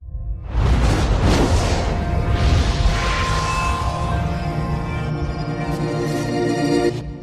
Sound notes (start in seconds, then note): 0.5 air whooshing